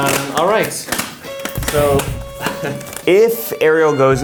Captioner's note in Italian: si mette i guanti rumorosamente